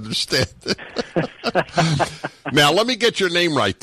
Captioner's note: laughing